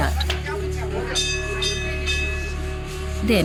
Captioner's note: bell jingles